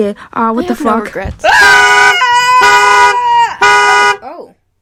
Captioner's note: car sounds etc